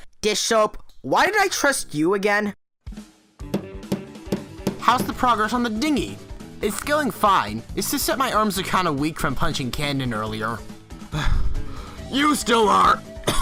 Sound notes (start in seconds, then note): 3.3 Accordion Folder is hammering in a nail; 11.1 huffs